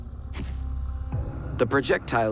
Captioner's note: click of camera